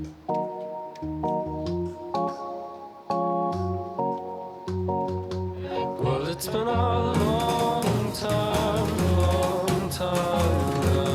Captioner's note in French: chant